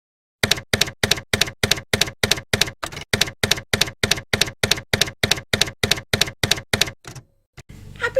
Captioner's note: typewriter keys clacking